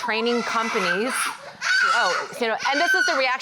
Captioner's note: child crying